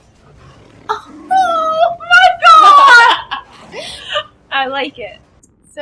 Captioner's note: laughter